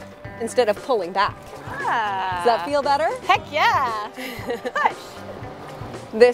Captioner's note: ahhh